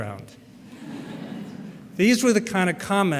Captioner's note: laughter